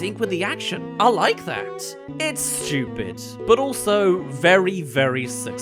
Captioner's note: none